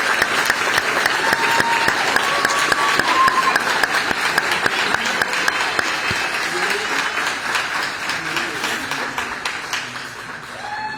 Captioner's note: applause